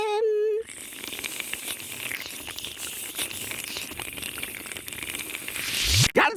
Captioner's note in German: Schlürfen